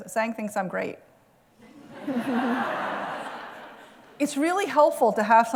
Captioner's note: laughter